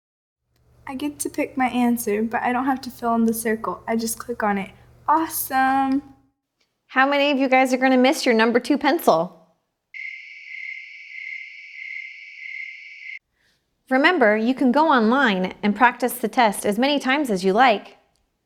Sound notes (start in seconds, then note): 9.9 cricket Sound